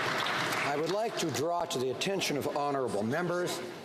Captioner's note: some Applause